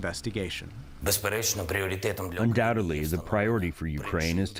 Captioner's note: through translator